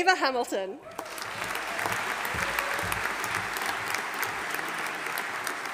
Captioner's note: audience applauding